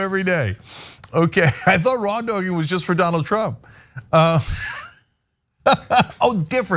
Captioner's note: laugh